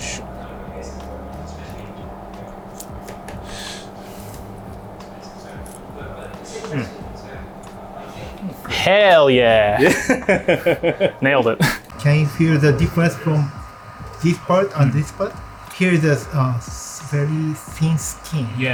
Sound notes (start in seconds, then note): 9.5 laughs